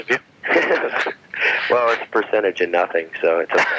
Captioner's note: laughs